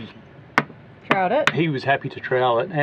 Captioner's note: trowel tapping